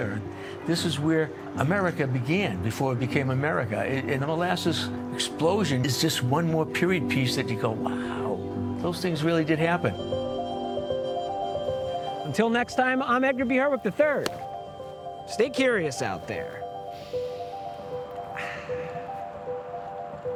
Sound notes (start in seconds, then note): 10.1 curious oscillating music; 18.3 sniffing